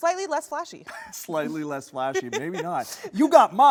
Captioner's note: laughs